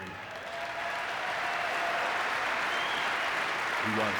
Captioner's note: audience clapping